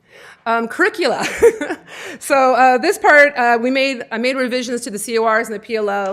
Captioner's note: laughter